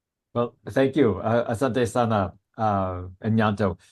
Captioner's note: speaking Swahili